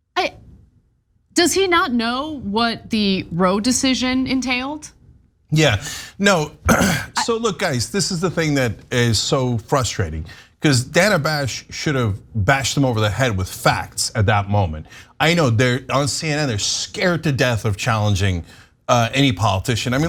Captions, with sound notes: >> Does he not know what the Roe decision entailed? >> Yeah, no, [COUGH] so look, guys, this is the thing that is so frustrating, because Dana Bash should have bashed him over the head with facts at that moment. I know, on CNN, they're scared to death of challenging any politician.